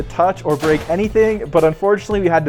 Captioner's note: effect crashes